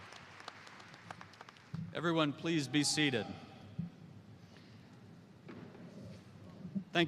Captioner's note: applause